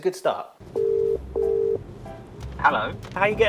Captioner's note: phone line ringing